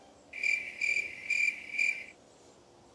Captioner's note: crickets sounds